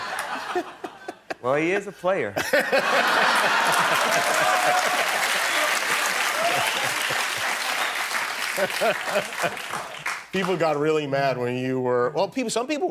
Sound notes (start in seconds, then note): 2.3 laughter; 7.0 cheers and applause